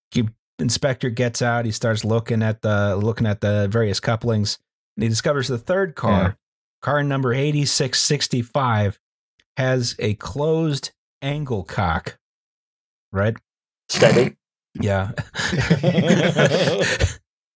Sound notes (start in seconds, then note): 14.0 snorts; 15.1 laughter